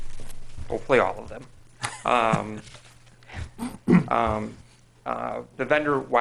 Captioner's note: laughing